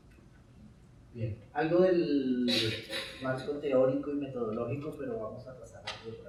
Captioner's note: speaking in Spanish